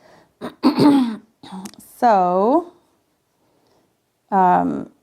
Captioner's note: clearing throat